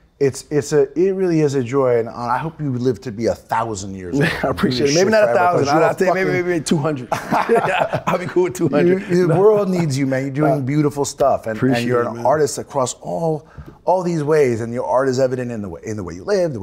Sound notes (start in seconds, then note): 6.9 Ben laughs